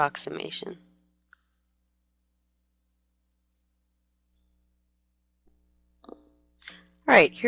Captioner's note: pause